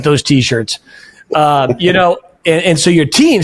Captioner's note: laughing